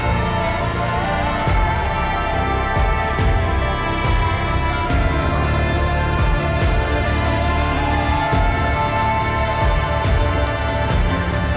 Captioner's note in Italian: Applauso